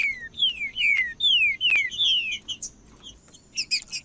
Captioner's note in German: trinca ferro cantando